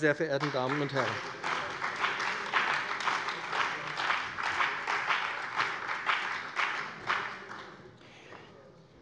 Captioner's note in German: Beifall bei dem BÜNDNIS 90/DIE GRÜNEN und der CDU